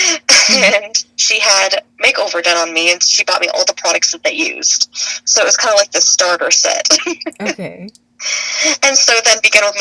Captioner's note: laughs